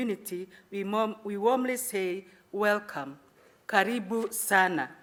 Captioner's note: speaking in foreign language